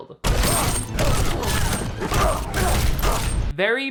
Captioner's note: grunting; ice shattering